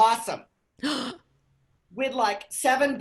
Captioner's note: gasps